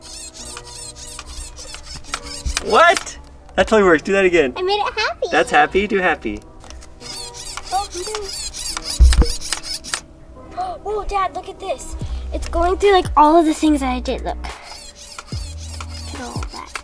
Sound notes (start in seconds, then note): 0.0 robot buzzing; 7.0 robot buzzing; 12.0 inhales excitedly; 14.5 robot buzzing